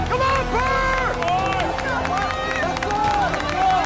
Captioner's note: cheering